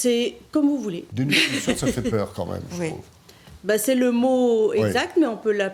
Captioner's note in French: rires